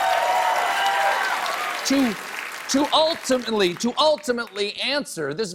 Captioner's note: applause